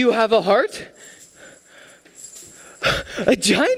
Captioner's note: chains: rattle, rattle